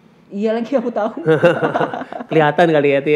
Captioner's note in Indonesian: tertawa